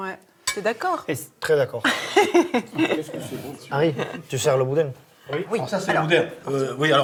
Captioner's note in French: rires